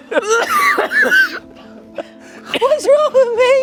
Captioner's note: everyone laughs